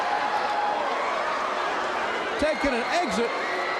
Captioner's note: crowd cheering